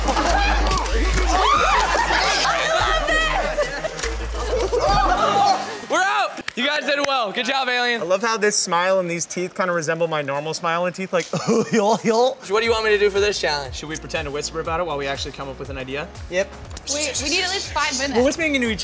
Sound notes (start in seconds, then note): 0.0 laughs; 1.2 screams; 4.6 laughs; 11.3 exaggerated laugh; 16.6 exaggerated whispering